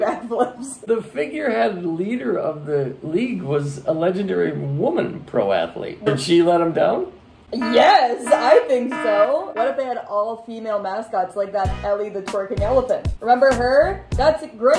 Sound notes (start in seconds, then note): 0.0 laughing; 8.2 blaring alarm; 12.6 dance music